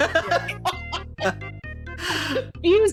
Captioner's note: laughing